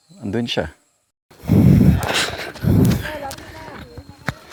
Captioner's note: heavy breathing